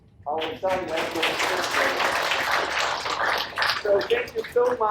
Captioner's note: audience applauds